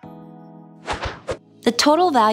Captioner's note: relaxed music; air whooshing